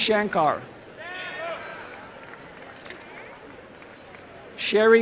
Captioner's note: applause and cheering